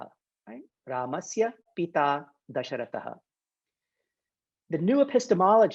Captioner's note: speaking in Sanskrit